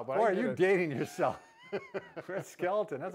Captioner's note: both chuckle